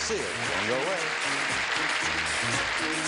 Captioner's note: audience clapping